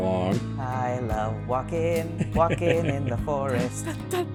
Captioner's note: laughs; laughter